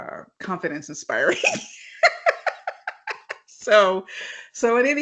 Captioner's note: chuckles